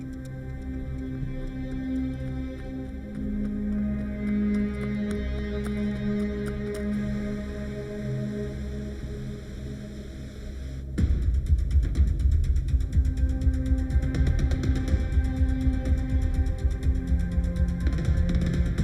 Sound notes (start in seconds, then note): 0.1 ominous music; 7.4 river babbling; 11.0 suspenseful music